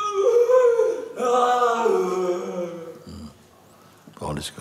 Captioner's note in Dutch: Sangha vriend jammert